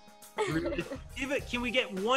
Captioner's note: laughs